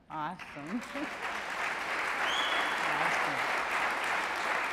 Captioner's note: audience claps and cheers